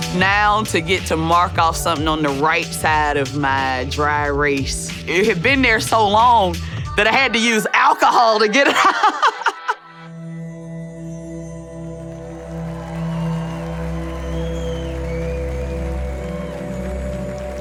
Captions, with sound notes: Now to get to mark off something on the right side of my dry race, it had been there so long that I had to use alcohol to get it out (laughing) (audience applauding)